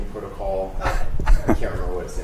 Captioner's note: laughs